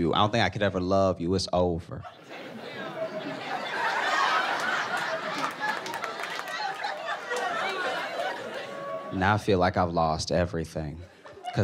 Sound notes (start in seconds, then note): 2.1 audience exclaims